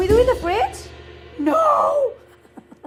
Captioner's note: laughs